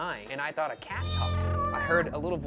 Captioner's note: cat meows